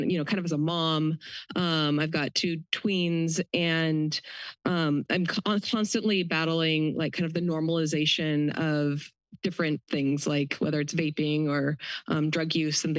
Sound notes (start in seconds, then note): none